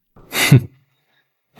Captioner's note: laugh